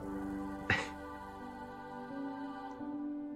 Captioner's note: scoffs